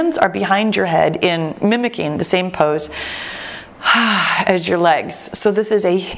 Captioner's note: exhales